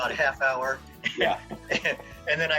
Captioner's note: both laughing